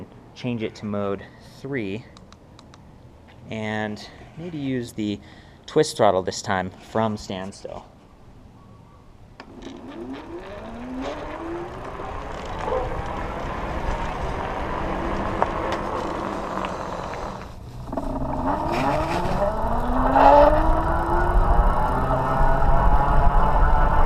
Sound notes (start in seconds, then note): 2.6 click, click; 9.4 motor whirring